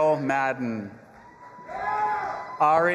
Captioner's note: audience applauding and cheering